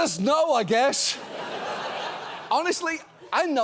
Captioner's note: audience laughs